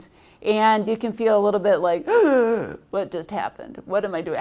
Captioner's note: gasps